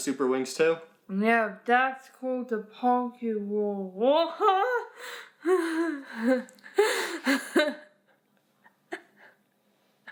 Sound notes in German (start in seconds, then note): 5.7 lacht